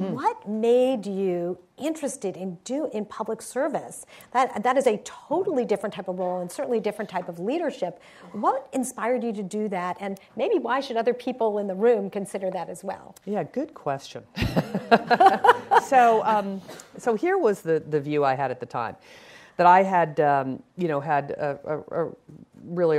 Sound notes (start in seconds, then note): 14.5 laughing